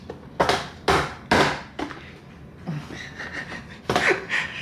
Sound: slicer banging; laughing

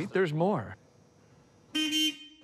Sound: two honks

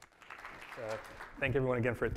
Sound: audience clapping

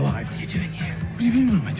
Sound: whispering

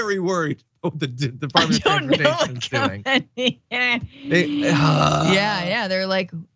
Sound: laugh

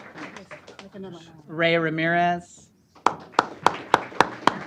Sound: applause

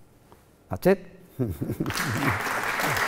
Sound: laughs; applause

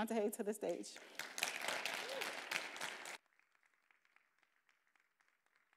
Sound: attendees applauding

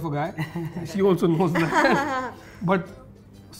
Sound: laughter

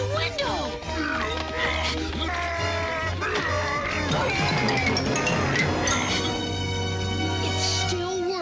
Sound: roaring

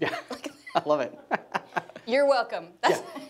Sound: laughs

